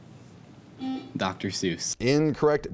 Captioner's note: buzzing